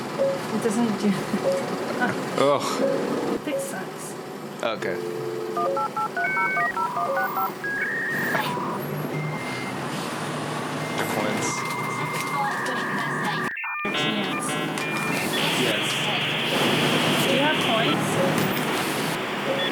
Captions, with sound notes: - It doesn't do that ... oh. - Whoa. - You pick sides. - Oh okay. (Ancient computer sounds.) - There're coins. - A chance ... - Yes. - Do you have coins?